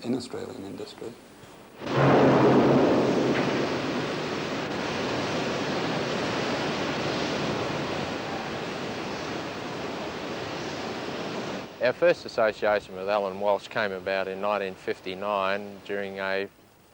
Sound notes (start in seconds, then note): 1.7 noises of the factory